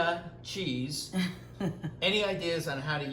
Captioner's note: laughs